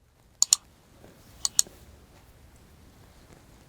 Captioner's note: mouse clicks